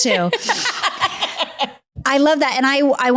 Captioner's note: laughing